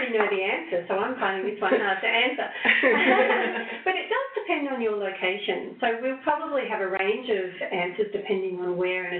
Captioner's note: laughing